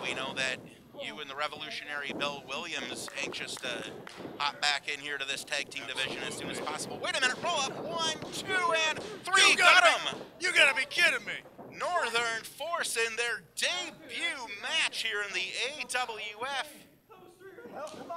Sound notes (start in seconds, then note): 9.3 referee slapping